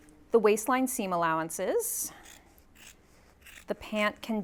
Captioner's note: scissors snipping